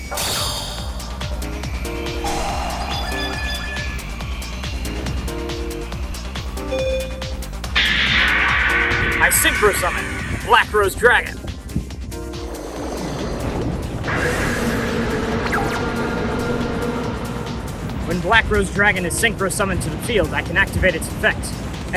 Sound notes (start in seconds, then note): 14.0 heavy wind